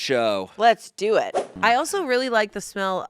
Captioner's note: air whooshing